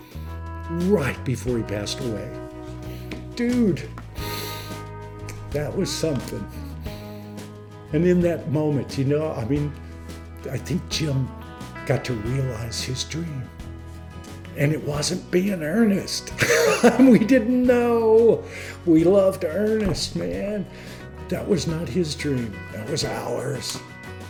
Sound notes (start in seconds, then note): 16.4 laughs